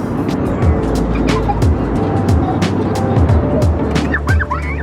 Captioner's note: laughs